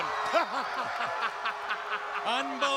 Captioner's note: laughs